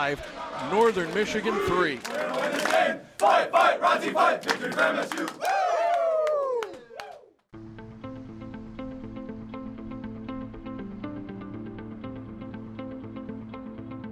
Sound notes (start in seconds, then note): 2.6 team chant quickly; 7.5 calm music